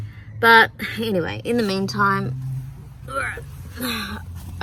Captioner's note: grunts with effort